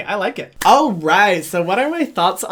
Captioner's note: clapping